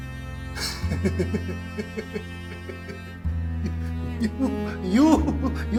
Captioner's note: laughs